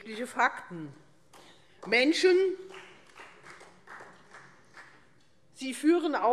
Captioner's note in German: Vereinzelter Beifall Freie Demokraten und AfD